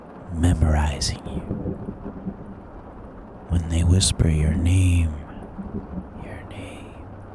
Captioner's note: slower, softer